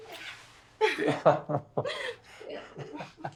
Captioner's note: excited laughter